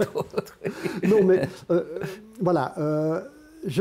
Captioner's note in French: rire